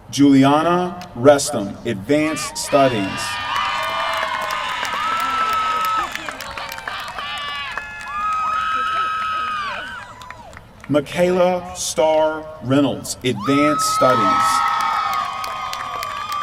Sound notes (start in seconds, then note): 3.3 applause; 13.4 applause